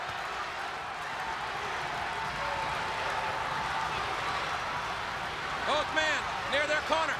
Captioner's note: crowd cheering